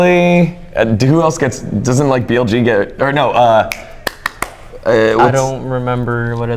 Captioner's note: clapping